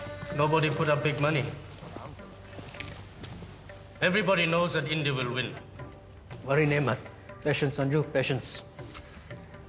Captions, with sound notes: Nobody put up big money. Everybody knows that India will win. (speaking foreign language) Patience, Sanju, patience.